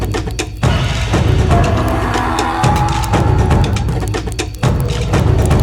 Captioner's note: dinosaur growling continues